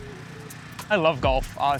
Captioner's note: engine whirrs; smooches